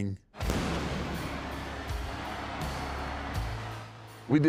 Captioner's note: explosion